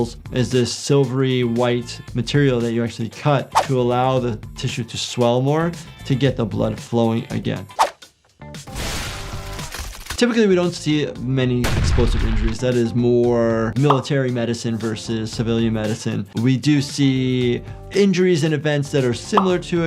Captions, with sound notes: is this silvery white material that you actually cut to allow the tissue to swell more to get the blood flowing again. (explosion booms wetly) Typically, we don't see many explosive injuries. (explosion booms) That is more military medicine versus civilian medicine. We do see injuries and events that are similar to it.